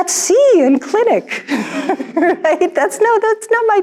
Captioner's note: all laugh